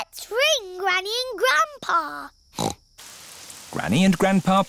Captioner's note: snorts